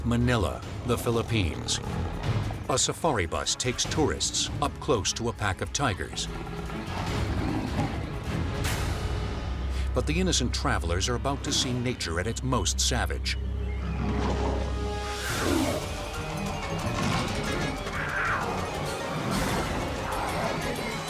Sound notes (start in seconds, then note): 13.8 tigers roar; 14.2 dramatic music